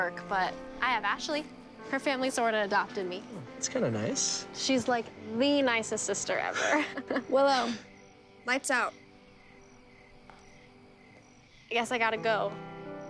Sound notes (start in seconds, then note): 6.4 laughs